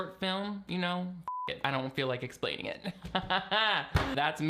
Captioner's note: beep